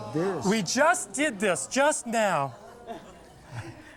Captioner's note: crowd laughs